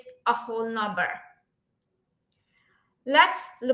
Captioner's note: silence